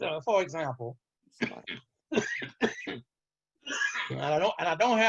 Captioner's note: coughs